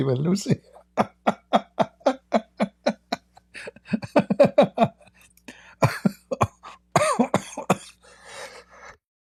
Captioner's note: Ketawa